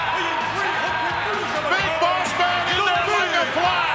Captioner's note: crowd chattering